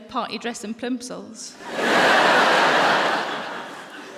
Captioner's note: laughter